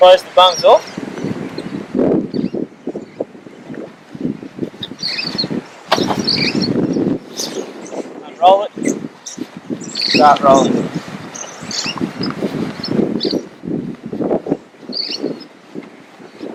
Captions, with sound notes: Then close the valves off. (Birds chirping) Unroll it. Start rolling.